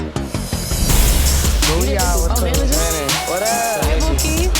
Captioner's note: chattering